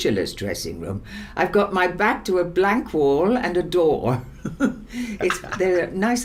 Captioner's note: laughs